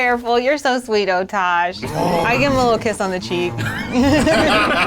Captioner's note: Otash grunts; all laugh